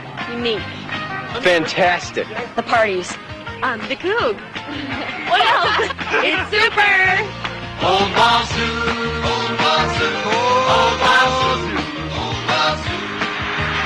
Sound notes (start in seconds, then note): 4.6 laughing; 13.6 choir sings